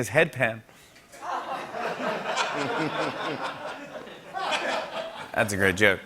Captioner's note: laughter